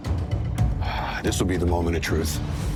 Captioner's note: intense music; Jon sighs